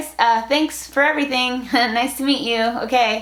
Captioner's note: laughs